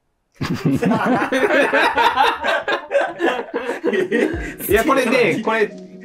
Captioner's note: laughing